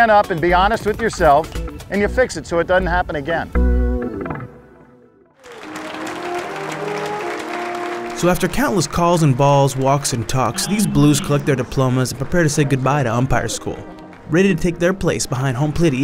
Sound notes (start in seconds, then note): 5.4 clapping; 7.9 voiceover